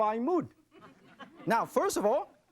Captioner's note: audience laughing